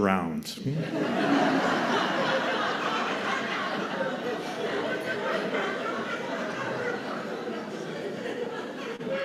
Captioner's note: sustained raucous laughter